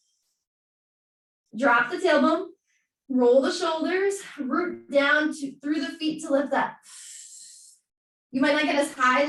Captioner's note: exhaling